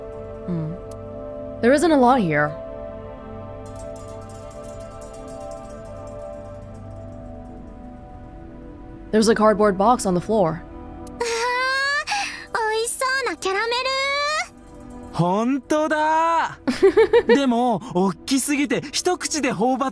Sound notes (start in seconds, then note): 16.6 chuckles